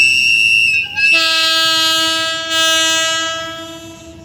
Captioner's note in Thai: หวี๊ดๆ; แปร๊นๆ